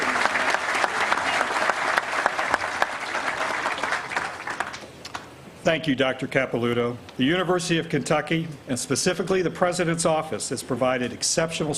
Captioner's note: applause